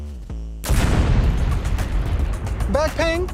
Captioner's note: explosion bursts